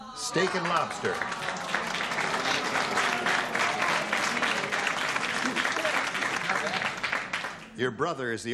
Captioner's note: applause